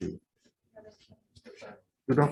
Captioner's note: indistinct conversation